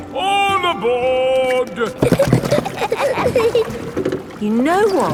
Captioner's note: giggling